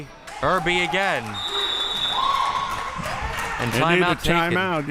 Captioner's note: whistle chirping; crowd cheering